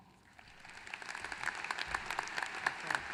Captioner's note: applause